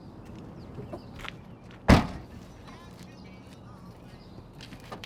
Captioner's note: car boot slams